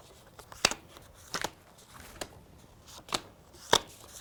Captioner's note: cards click